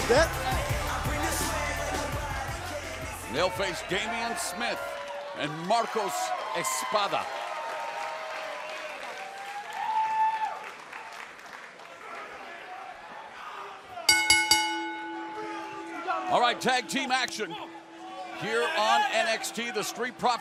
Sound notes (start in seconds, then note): 7.8 crowd cheering; 14.1 bell ringing